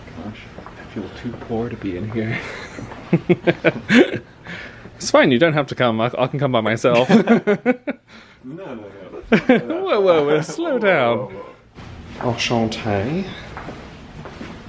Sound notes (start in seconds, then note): 2.3 chuckles; 9.0 laughs